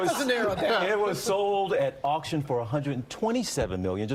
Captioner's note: laughter